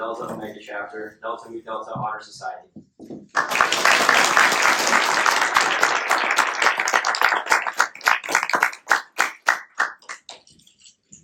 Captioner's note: applause